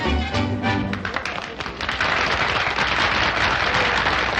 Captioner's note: crowd applauding